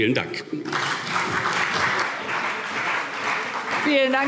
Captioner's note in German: Beifall